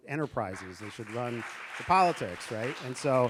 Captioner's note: audience applauding